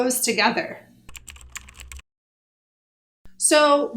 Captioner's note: keyboard typing sounds